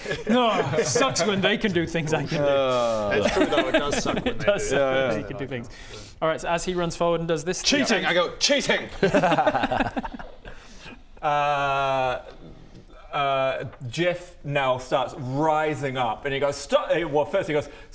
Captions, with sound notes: Urgh sucks when they can do things I can do urgggh that's true though, it does suck when they do that it does suck that he can do things alright so as he runs forward and does this CHEATING! I go CHEATING! *sympathetic yet judgmental laughter* uhhhhhhhhhh uhhhh Djeoph now starts rising up and he goes st- well first he goes